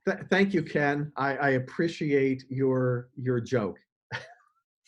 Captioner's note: laughs